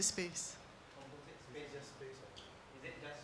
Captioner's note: faintly speaking